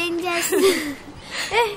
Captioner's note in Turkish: gülme sesleri̇